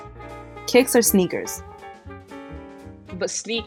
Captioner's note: voiceover